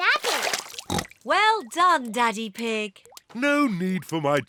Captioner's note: oinks